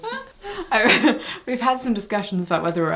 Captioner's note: laughs